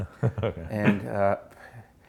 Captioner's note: laughs